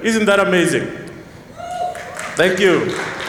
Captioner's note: cheers